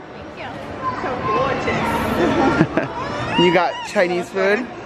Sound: giggling

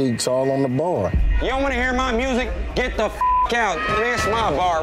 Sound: beep

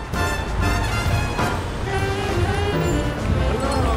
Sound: city ambience sounds; ringing bells

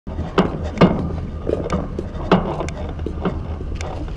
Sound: rocks hitting each other

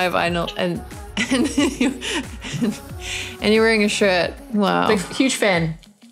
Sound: laughing

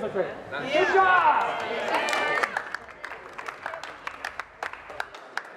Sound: crowd applause

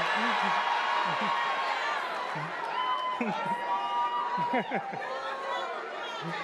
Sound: attendees applauding and cheering

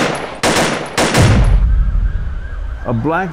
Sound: gun shots; siren

